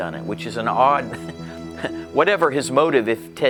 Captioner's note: laughs